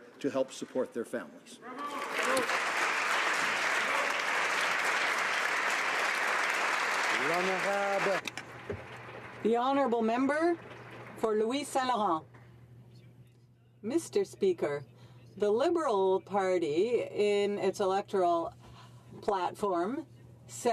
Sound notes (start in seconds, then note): 11.7 some Applause